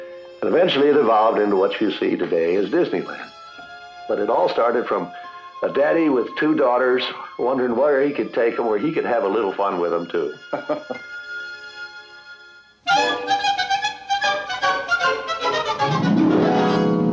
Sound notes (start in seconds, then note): 10.4 chuckling; 12.9 bright lively music